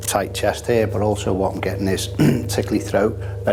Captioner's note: clears throat